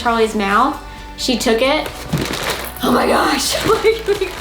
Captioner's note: laughs